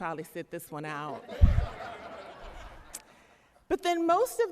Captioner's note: laughter